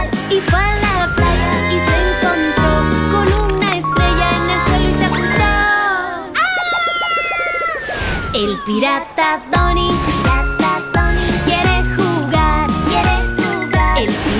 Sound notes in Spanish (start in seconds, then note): 6.2 Grito